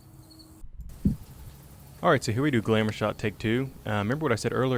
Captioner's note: voiceover